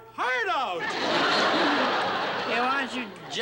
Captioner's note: laughter